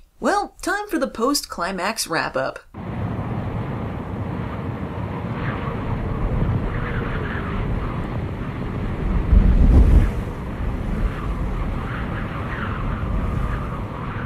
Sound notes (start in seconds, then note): 2.7 wind noises; 9.1 wind directly hitting the mic; 10.1 more wind noises